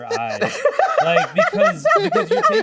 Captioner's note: laughs